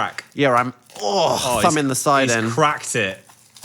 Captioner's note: grunts